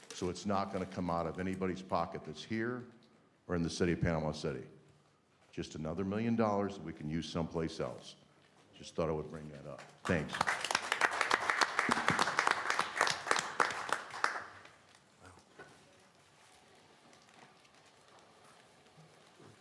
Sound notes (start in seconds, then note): 9.8 applause